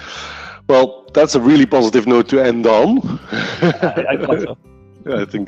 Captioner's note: laughing